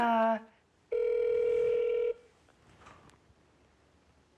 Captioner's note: phone ringing